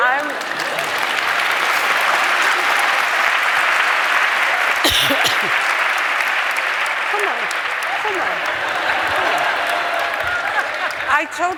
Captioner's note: applause